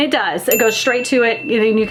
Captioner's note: bell dings